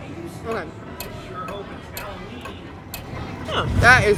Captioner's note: clock ticking